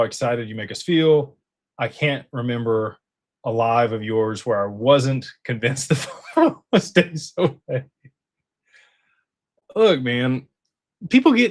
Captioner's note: laughter